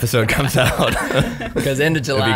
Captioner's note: laughs